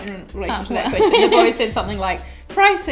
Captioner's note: laughs